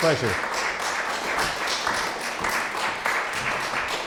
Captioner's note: audience applauds